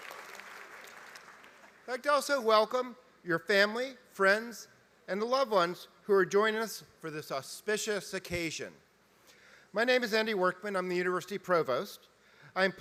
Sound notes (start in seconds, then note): 0.0 applause